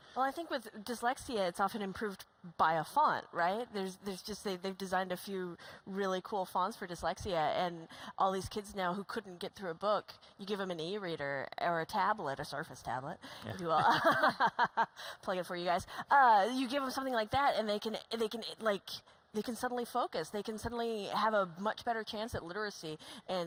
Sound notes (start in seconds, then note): 13.4 laughter